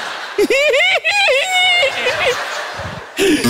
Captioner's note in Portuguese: risos